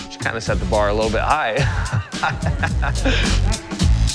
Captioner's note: laughs